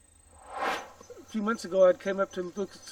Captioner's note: air swooshes